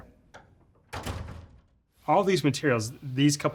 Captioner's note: door closing